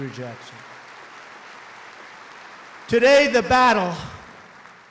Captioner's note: applause